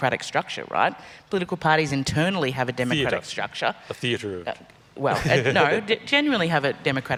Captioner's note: laughs